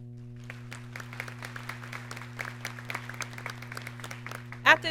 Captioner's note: audience clapping